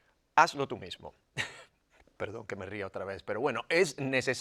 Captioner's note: laugh